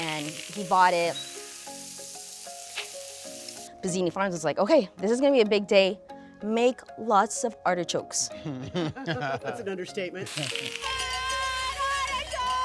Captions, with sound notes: and he bought it. Pezzini Farms was like, okay, this is gonna be a big day. Make lots of artichokes. (participant laughs) That's an understatement. Hi, let it go.